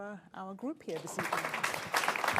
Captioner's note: applause